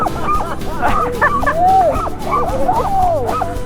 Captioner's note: laughing